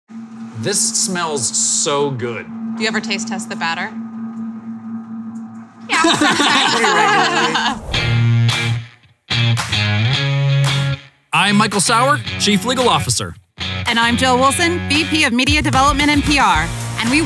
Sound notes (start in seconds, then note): 5.9 laughing; 9.4 upbeat music